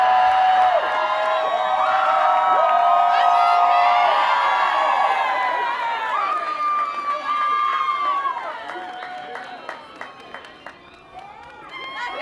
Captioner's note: cheers and applause